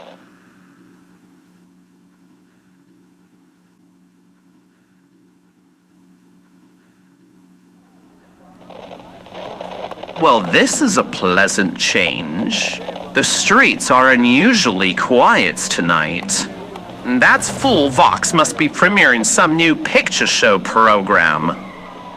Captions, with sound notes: (sounds fade out, scene change) (outside in city, quiet crowd fx, cars fx) Well, this is a pleasant change. The streets are unusually quiet tonight. That fool Vox must be premiering some new picture show program.